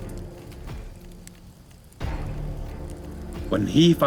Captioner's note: dramatic music; fire crackling